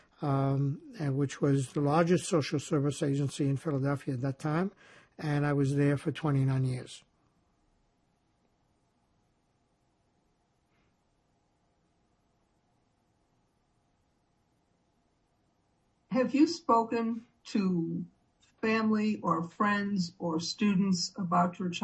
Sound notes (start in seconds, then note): 7.4 pauses 8 seconds